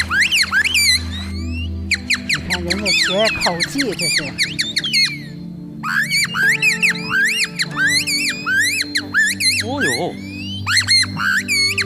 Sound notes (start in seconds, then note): 2.3 vocal mimicry